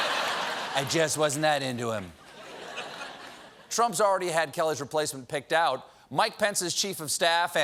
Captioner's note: laughter